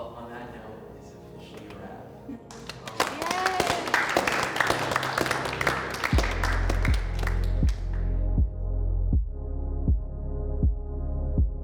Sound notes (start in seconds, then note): 2.4 all clap; 8.0 driving techno music